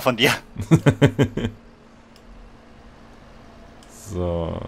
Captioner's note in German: Lachen